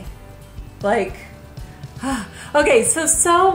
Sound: sighs

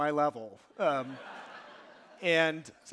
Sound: audience laughing

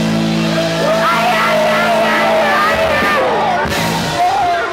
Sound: crowd cheering

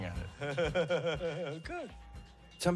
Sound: laughs

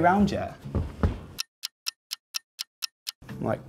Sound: clock ticking

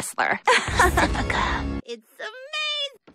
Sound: laughs

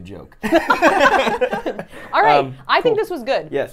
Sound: both laugh

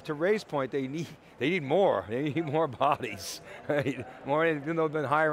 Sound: laughs

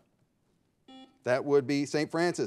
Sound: buzzer beeping

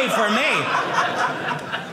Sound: audience laughing

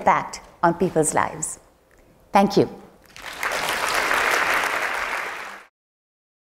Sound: applause

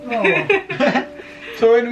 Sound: laughing

